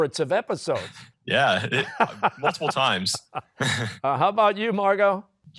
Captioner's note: both laughing